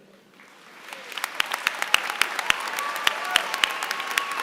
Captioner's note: applause